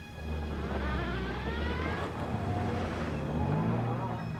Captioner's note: engine revving